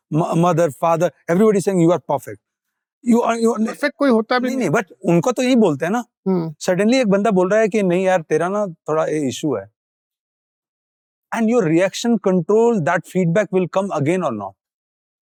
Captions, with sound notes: everybody says that you are perfect. [both speaking in Hindi] And your reaction, control, that feedback will come again or not?